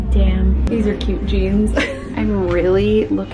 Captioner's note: laughs